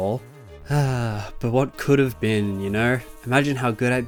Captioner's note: sigh